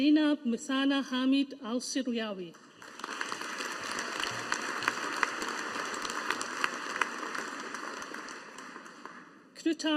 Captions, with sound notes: Zainab Muthana Hameed Alsiryawi. (AUDIENCE APPLAUDING)